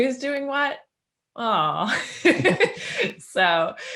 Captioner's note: laughing